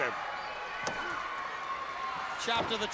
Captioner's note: crowd cheering